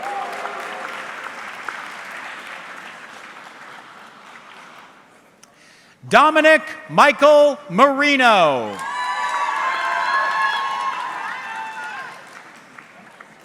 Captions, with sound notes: (audience clapping) Dominic Michael Marino. (audience cheering)